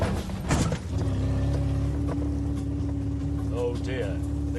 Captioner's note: engine droning